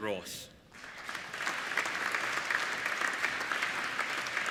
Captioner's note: applauding